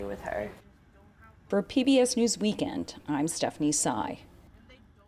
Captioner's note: voice-over